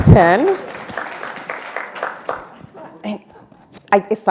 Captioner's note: attendees applauding